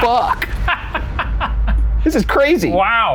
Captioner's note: laughing